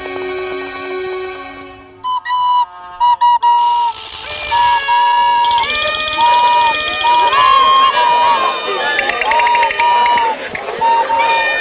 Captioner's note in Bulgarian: аплодисменти